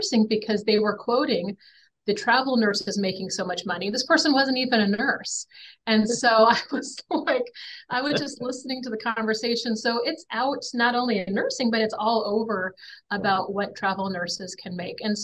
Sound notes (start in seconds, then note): 6.0 chuckles